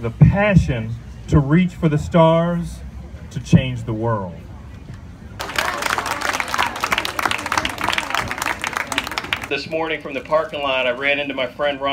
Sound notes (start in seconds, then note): 5.4 applause